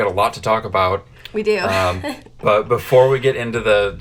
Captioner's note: chuckles